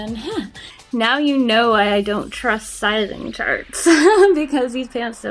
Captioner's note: laughs; laughs